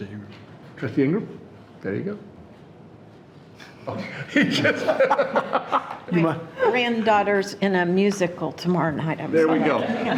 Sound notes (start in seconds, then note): 3.9 people laughing